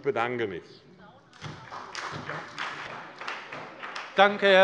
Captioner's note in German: Beifall bei der SPD